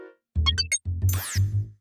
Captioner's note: beeping